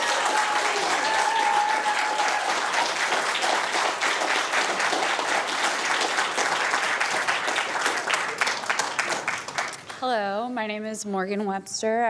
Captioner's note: cheers & applause